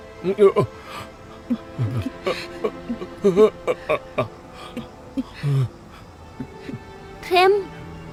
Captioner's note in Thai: เสียงหัวเราะ